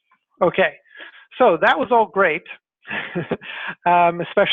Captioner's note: laughs